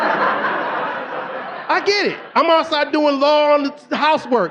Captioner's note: audience laughing